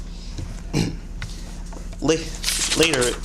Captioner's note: clears throat